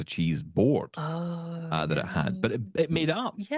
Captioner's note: exclaiming